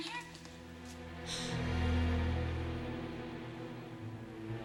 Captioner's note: gasps